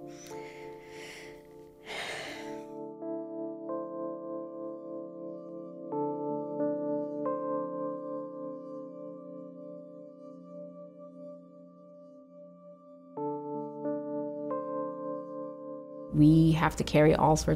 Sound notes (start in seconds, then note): 1.8 sighing; 5.1 somber music; 14.2 somber music continues